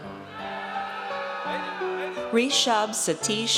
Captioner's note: audience cheers